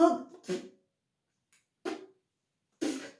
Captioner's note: tries to spit